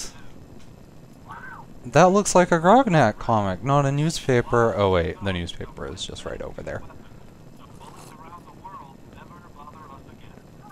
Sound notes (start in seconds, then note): 7.8 slurp